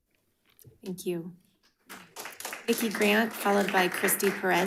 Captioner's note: audience clapping